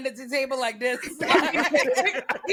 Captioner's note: laughter